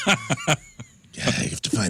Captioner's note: both Laughing